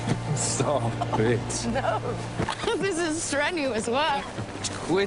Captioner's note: giggling